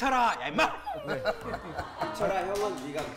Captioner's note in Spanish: Lloriquea